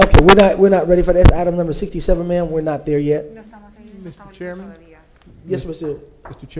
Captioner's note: speaking spanish